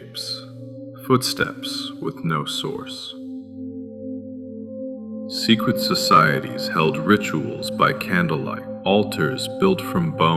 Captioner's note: echoing